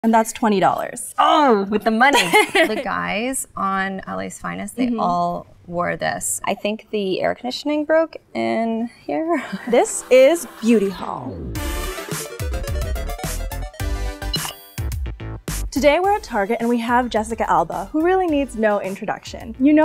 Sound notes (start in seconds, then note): 2.1 laughter; 11.2 upbeat music